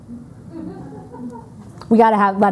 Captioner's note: audience laughing